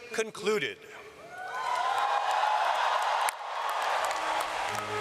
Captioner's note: audience cheering and clapping; ceremonial music